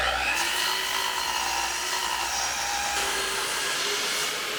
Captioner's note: saw cutting